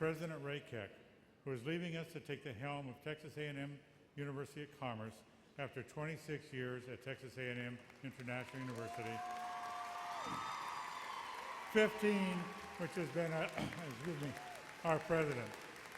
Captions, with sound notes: And President Ray Keck, who is leaving us to take the helm of Texas A&M University of Commerce, after 26 years at Texas A&M International University. (applause) 15, of which, has been as our president.